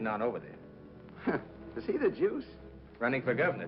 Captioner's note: chuckles